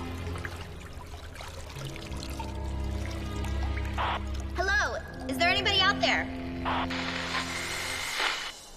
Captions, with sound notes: [water dropping] [radio static] Hello! Is there anybody out there? [radio static]